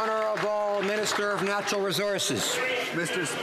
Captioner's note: some Applause